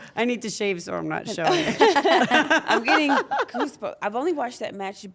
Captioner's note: laugh